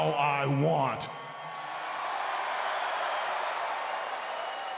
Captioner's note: crowd cheering